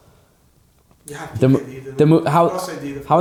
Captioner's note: client murmurs